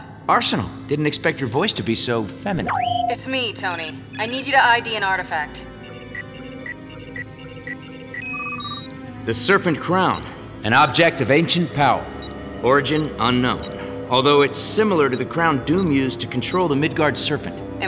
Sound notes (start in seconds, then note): 5.6 beeping